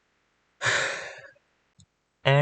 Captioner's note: exhale